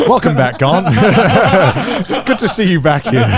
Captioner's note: all laughing